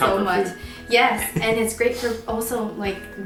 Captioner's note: laughs